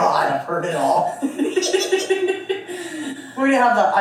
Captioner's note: laughs